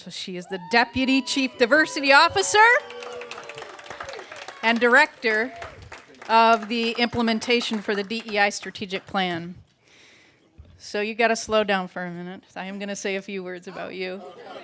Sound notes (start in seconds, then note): 2.1 applause; 2.6 cheers